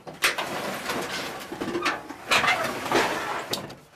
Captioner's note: metal clunking